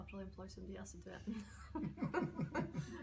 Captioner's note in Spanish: risas